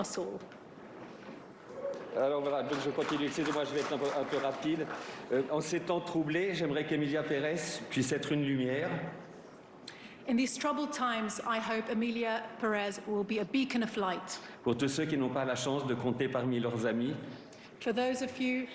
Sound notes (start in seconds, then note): 8.4 speaking french